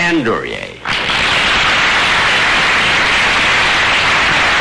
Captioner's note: audience applause